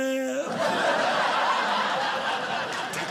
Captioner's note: audience laughing